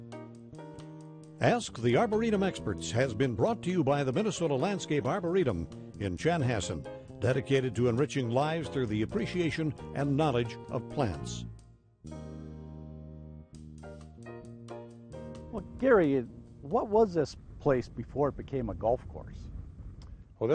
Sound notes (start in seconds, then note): 1.4 voiceover